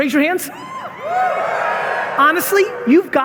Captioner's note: audience members hooting